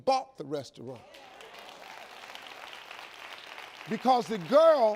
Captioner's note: audience applauds